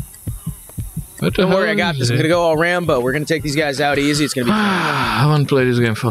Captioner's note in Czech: povzdych